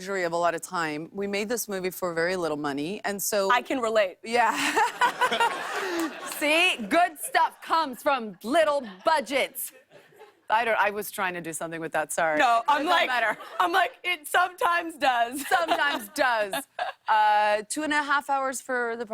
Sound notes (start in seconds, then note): 4.5 laughter